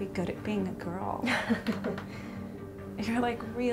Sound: laughing

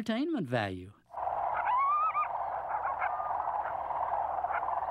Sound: barking

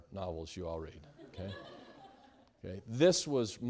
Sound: students laughing

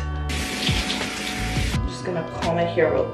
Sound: shower water thundering

